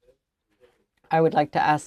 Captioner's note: speaking French